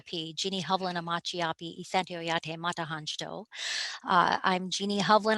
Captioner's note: speaking native language